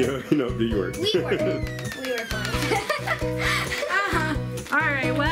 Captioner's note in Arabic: يضحك